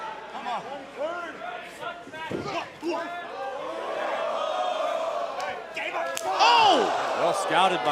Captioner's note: crowd cheering